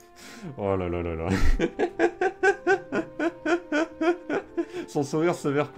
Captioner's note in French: Rires